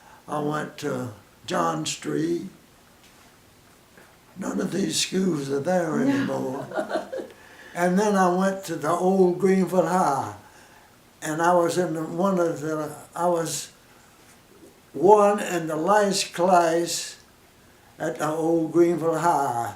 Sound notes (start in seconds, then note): 5.9 laughs